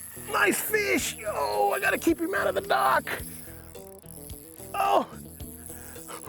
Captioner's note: grunting; cackling